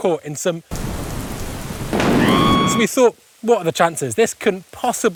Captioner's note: screaming noise